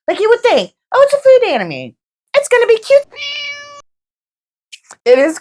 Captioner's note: meow